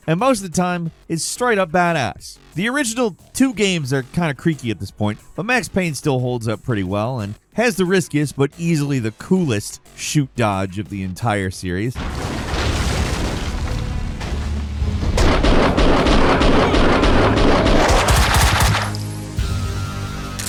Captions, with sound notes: and most of the time it's straight up badass. The original two games are kind of creaky at this point, but "Max Payne" still holds up pretty well and has the riskiest, but easily the coolest shoot dodge of the entire series. (objects clattering) (tense music) (gunfire booming)